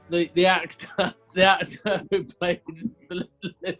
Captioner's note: laughing